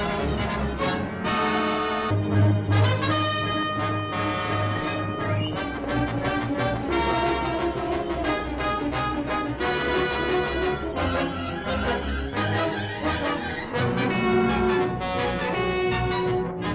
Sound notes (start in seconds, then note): 2.5 action music; 13.8 cattle mooing